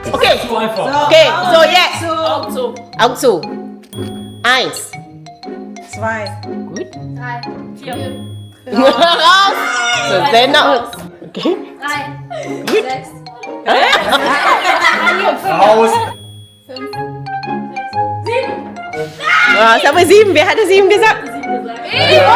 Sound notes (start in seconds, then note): 4.5 speaking German; 8.7 laugh; 11.3 speaking German; 11.8 laugh; 11.8 speaking German